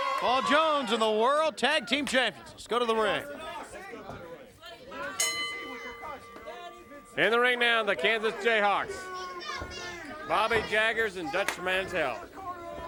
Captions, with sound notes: Paul Jones and the World Tag Team Champions. Let's go to the ring. (bell rings) In the ring now, the Kansas Jayhawks. Bobby Jaggers and Dutch Mantell.